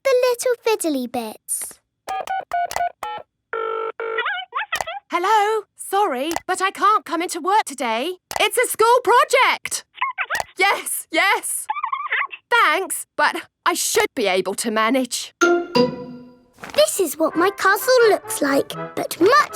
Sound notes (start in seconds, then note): 2.1 dials phone; 4.1 on phone